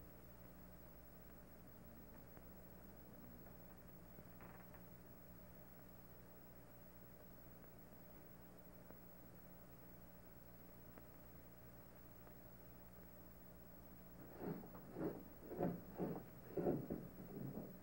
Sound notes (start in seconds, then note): 4.4 door creaking slightly; 14.1 grinding sounds